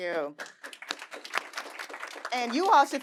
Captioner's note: audience applauding